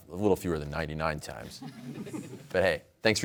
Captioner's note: audience chuckling